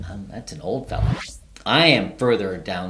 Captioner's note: video whooshing